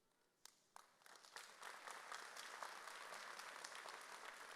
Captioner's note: audience applauds